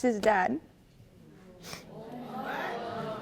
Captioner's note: sniffles